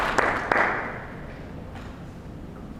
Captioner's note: applause